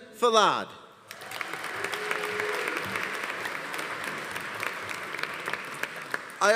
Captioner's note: audience applauding; audience cheering